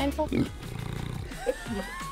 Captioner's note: grunt